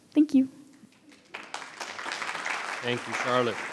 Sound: audience applauding

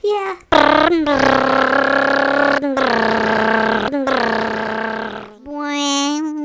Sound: funny motor sound

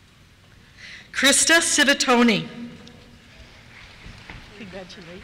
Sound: applause

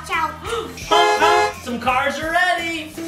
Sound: car honking

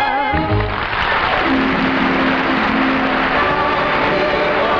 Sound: applause

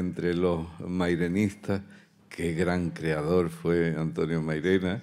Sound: continues in Spanish

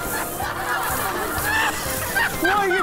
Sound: she's laughing too; laughing hysterically

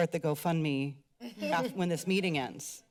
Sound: laughs

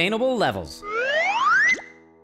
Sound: slide whistle

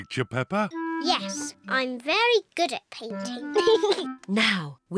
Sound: giggles

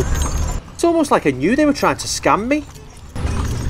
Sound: voiceover; jingling noise as caleche moves

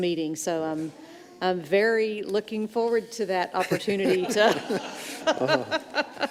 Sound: laughs

